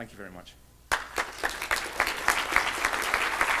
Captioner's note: applause